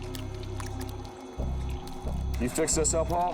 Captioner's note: liquid sloshing